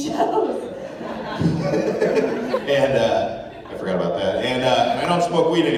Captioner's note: laughing